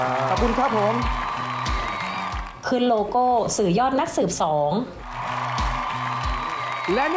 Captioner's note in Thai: เสียงเอฟเฟกต์ปรบมือ